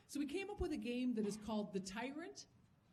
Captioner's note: none